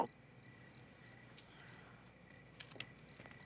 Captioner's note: crickets chirping